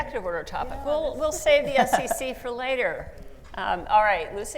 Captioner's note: laughs